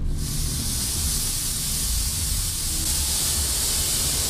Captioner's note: steam hisses